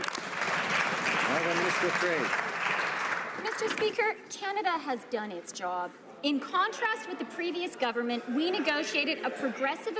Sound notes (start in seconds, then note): 3.5 some Applause